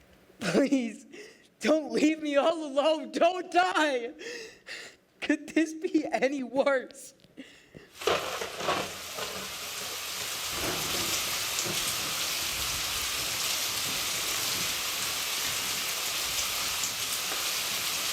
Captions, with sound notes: Please. Don’t leave me all alone. Don’t die!! Could this be any worse?!?! (Storm starts)